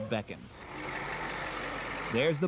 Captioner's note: diesel engine